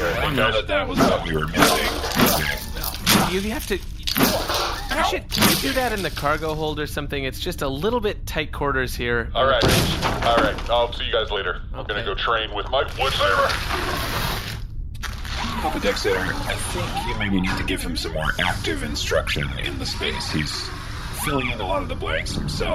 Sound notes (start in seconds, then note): 9.6 another crash; 11.9 grunting with effort as he hauls the log off